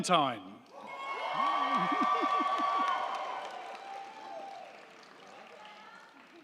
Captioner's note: crowd cheering; crowd clapping